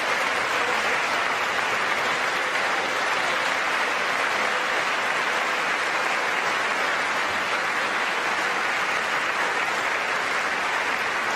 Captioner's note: applause